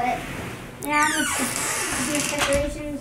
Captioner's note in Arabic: صرير الباب